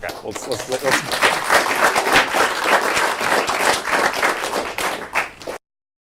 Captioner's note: applause